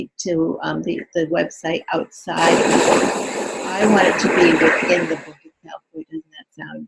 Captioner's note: sound of ocean